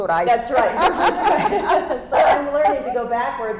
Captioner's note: laughter